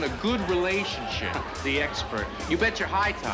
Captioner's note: snickers